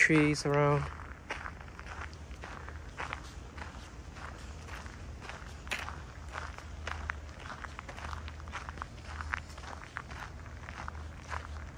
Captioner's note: walking on gravel